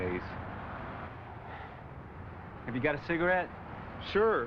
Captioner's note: sighs